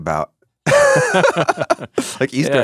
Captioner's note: both laughing